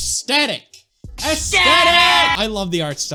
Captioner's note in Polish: Felix i Lil' Pump krzyczą ESTETIK!!